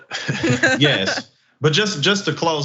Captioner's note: laugh